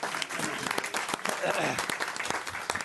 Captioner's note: clapping